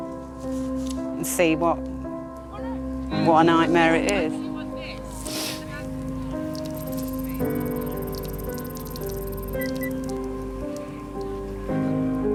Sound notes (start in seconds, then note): 4.8 piano music; 6.4 electronic ticking